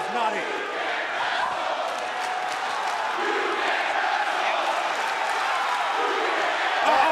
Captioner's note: crowd cheering